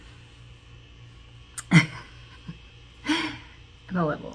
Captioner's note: chuckle